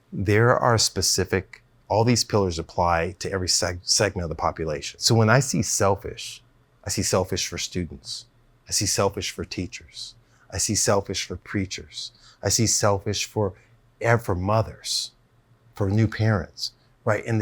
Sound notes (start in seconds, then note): none